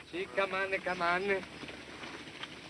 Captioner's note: speaking italian